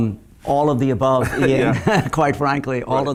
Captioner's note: laughing